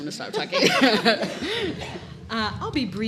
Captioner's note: audience laughs